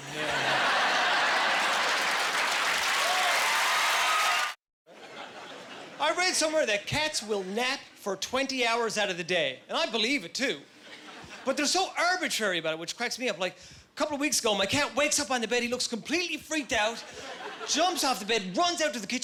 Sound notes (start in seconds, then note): 0.0 laughing; 2.1 applause; 4.7 laughing